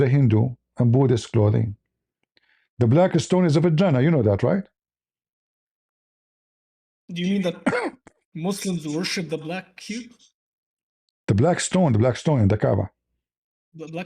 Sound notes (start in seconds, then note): 7.5 clears throat